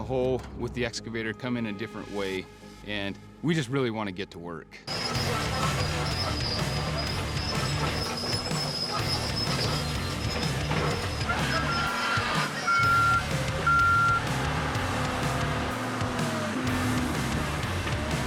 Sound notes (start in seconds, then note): 4.8 squeaking sound; 13.6 beeping